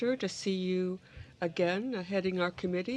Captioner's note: speaking french